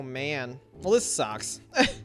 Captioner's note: chuckles